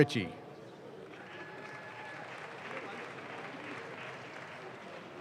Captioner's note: audience claps